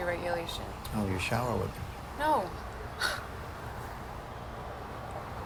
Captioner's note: chuckles